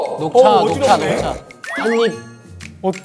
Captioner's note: sniffing puppy